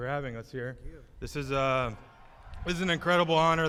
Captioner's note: applause